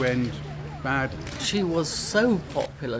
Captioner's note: cameras clicking